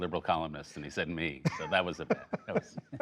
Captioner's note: laughter